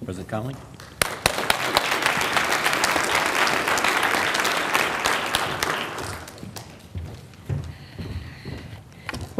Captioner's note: applause